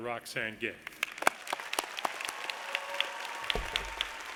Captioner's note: audience claps